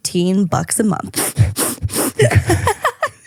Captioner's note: sniffing; laughing